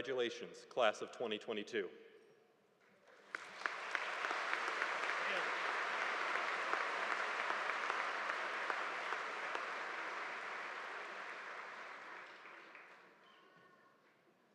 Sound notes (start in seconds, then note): 3.5 audience applauding